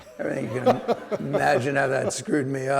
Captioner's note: audience laughing